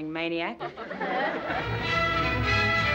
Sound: laughter

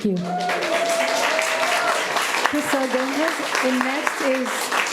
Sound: audience applauding

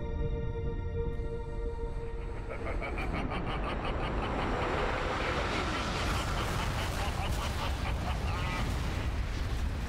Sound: evil Laughter

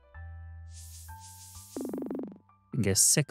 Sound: beeping

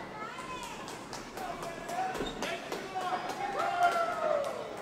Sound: crowd member claps; crowd

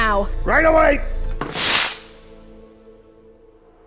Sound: firework fizzes

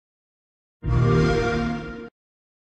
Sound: xbox sound

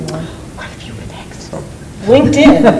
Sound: board Member whispers; loud laughter

